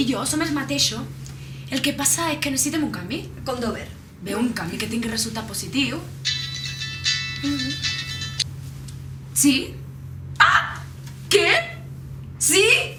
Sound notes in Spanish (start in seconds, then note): 6.2 suena el móvil